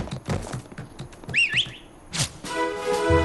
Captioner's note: whistle